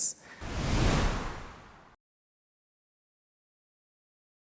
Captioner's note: whooshing